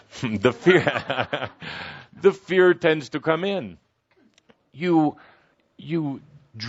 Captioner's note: Kuthumi laughs